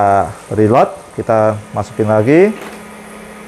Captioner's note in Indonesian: suara mesin printer